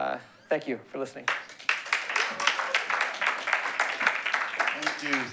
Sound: applause

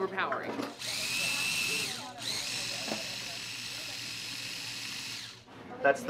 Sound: food processor grinding

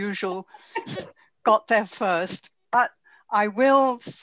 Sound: laughs

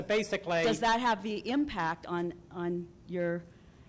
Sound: voiceover

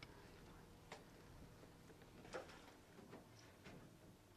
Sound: none

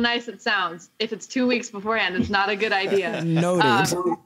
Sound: laughter

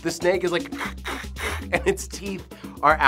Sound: hissing

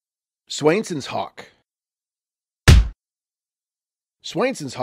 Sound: stamped sound

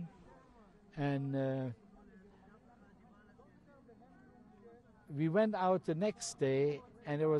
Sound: pauses for 3 seconds

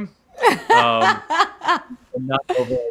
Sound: laughing

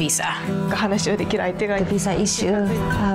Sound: speaking foreign language

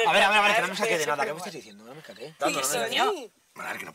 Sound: whispering

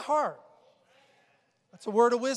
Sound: congregation agreeing

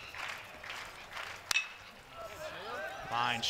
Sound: ball hitting bat

